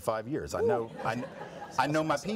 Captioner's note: audience laughs